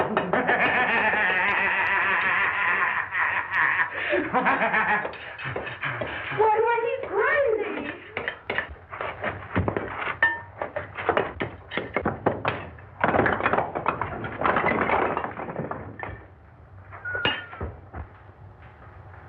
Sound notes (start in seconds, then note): 0.0 laughing wildly; 8.9 tool and bricks clattering